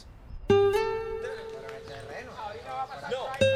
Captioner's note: chattering in Spanish